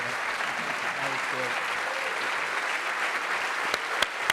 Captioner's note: audience applauds